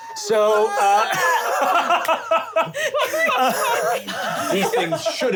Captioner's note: laughing and choking